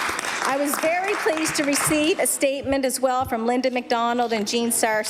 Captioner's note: some Applause